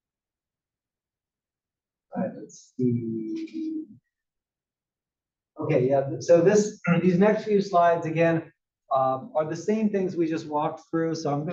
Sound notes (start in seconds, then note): 6.8 cough